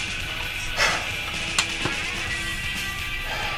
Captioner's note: man sighs